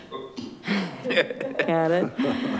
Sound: all laughing

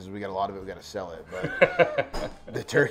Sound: laughs

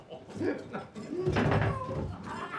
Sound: laughs maniacally; bumping into objects; screaming

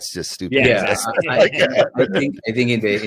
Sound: panel assenting

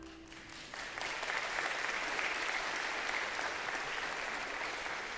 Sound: audience applauds

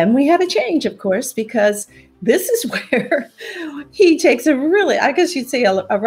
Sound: chuckles

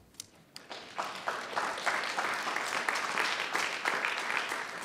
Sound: audience applauding

